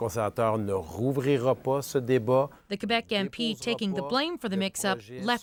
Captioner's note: speaking French